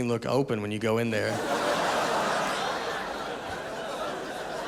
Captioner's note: audience laughing